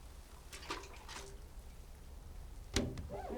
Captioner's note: water splashes